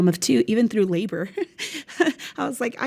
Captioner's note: laughs